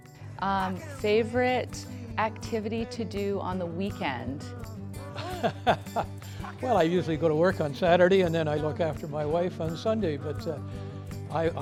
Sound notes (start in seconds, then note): 5.1 laughing